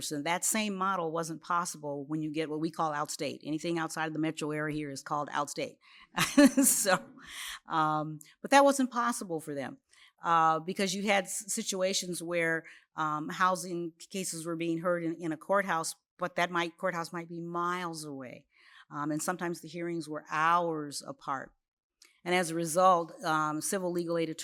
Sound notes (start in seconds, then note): 7.0 laughs